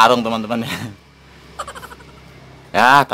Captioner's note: laughs